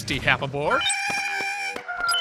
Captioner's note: squeaks